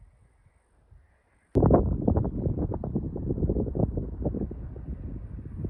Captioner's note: wind